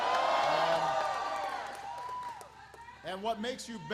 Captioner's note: applause